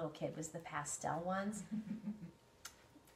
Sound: laughs

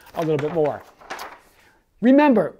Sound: page shuffles

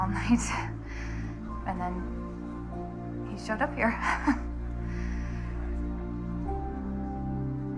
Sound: chuckles lightly

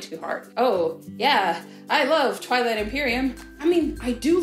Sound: unconvincingly

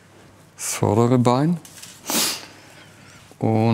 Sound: he sniffles

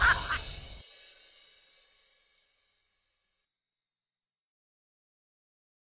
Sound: laughs; swooshing twinkling sound

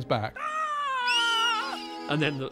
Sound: both scream

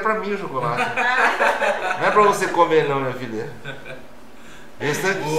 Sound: laughs

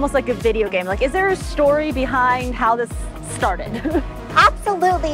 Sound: giggles

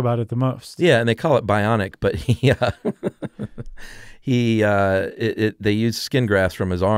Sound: chuckles

